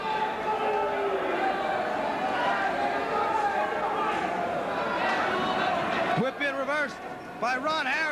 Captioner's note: crowd chatter